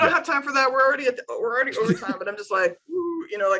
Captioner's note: laughs